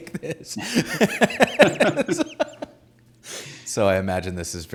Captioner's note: both laughing